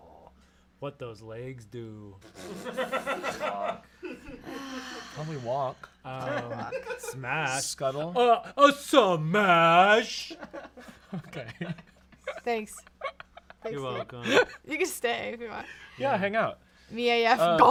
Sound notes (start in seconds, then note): 2.3 off-camera laughing; 4.4 sighs; 10.4 laughs; 10.4 off-camera laughing